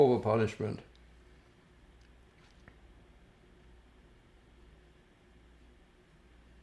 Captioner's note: pauses 6 seconds